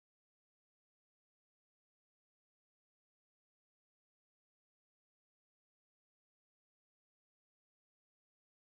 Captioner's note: hovering